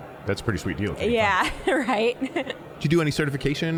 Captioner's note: chuckling